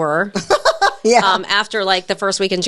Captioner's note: laughs